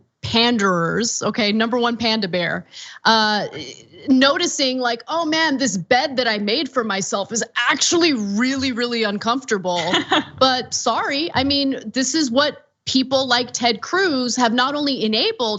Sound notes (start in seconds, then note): 9.8 laugh